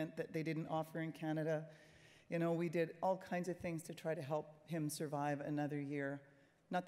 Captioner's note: none